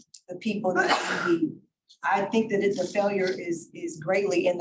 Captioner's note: board member sneezing